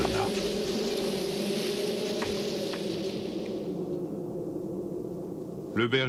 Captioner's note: whistling wind